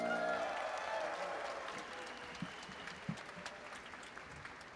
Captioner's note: audience applauding